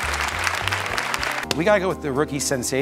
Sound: applause

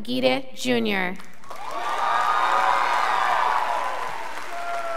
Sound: scholars applauding

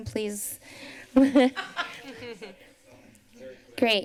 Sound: laughs

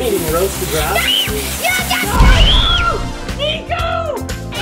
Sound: screaming

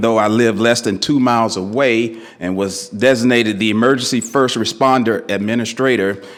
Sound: none

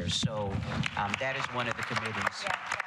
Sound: applause

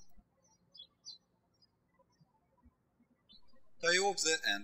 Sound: birds chirping

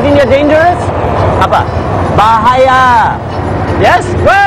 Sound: speaking indonesian

